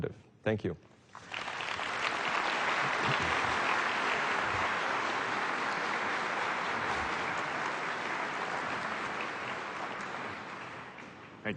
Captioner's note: applause